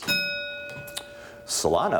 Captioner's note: ding